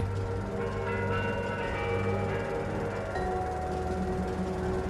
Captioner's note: clock chiming